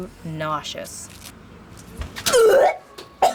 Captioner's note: sound of throwing up